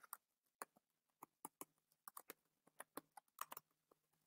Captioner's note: typing